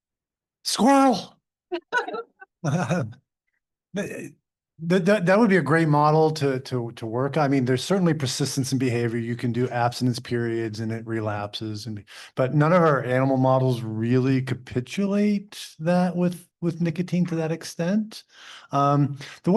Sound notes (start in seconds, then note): 2.6 both laughing